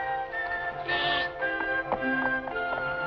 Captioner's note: bleating